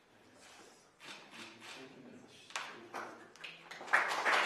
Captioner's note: camera clicks; applause